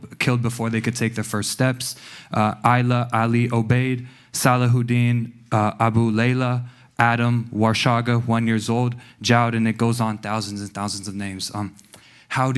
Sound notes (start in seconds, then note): 2.6 non-english speech; 7.7 non-english